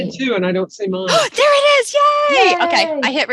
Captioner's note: excitedly